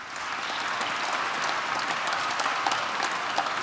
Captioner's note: applause